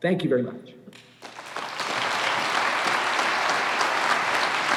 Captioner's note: applause